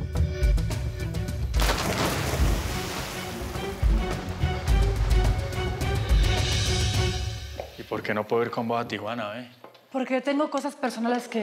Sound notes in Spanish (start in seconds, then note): 1.5 ruido al echarse al agua